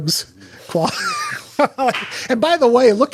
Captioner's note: chuckles